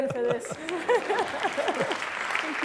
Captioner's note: applause